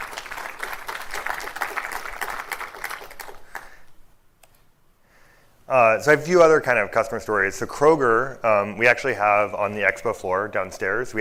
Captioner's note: applause